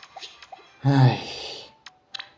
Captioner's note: sigh